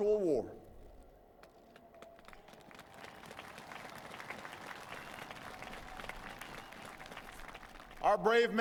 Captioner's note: applause